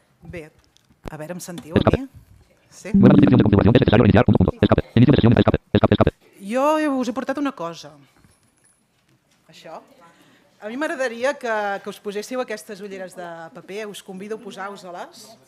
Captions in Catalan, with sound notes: Bé, a veure em sentiu a mi? Sí? [veu robòtica que parla ràpid en castellà] Jo us he portat una cosa. Això. A mi m’agradaria que us poséssiu aquestes ulleres de paper, us convido a posar-vos-les.